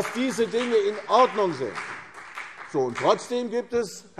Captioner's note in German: Beifall CDU und BÜNDNIS 90/DIE GRÜNEN